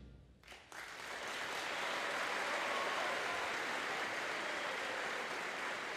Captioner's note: audience applauding and cheering